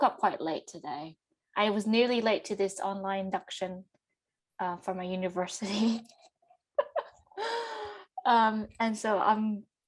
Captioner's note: laughs